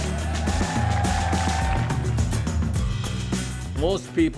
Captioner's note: crowd cheering